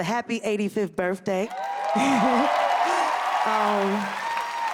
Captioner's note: cheers and applause